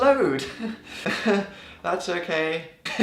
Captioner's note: laughs weakly